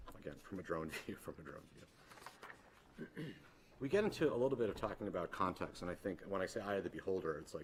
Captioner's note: clears throat